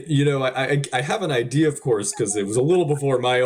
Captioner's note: laughs